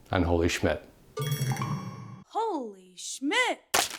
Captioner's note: bell ringing